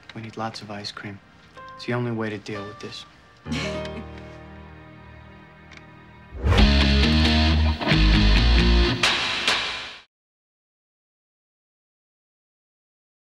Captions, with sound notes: We need lots of ice cream. It's the only way to deal with this. (Sheryl chuckles) (rock music)